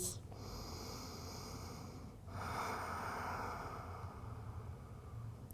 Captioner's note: inhaling and exhaling